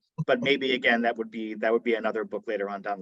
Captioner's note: chuckles